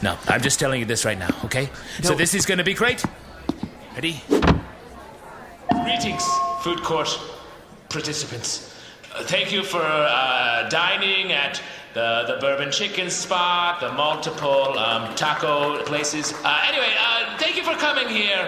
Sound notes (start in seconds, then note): 4.6 distorted by microphone; 13.8 scattered applause